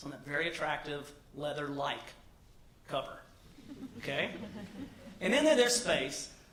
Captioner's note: laugh